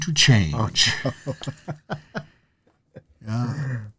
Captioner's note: laughing